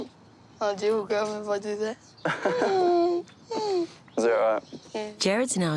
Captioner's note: wheezes; chuckles